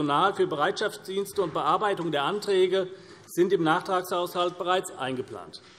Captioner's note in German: none